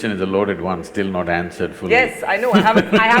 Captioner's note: Sadhguru laughs